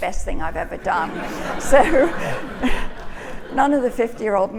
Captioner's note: audience laughing